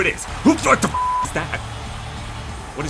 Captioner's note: beep